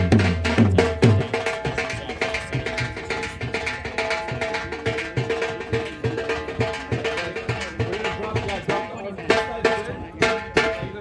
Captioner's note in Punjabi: ਤਾੜੀਆਂ